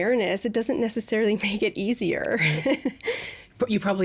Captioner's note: laughing